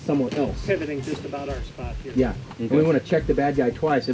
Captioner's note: voiceover